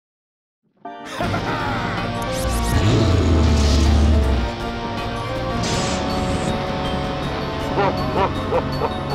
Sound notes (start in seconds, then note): 1.1 laughing; 2.4 growls; 7.7 evil laughter